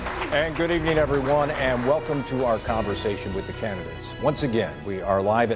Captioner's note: applause